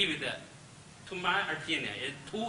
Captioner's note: speaks Chinese